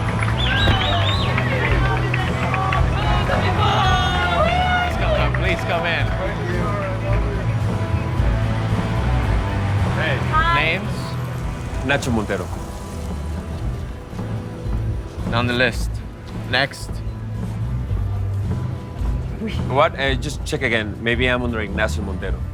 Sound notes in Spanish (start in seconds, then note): 0.0 Silbidos; 3.8 Gritos y exclamaciones